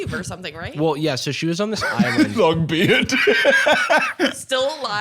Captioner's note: laughing